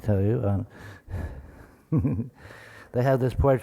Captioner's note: chuckles